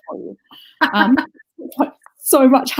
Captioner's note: laughs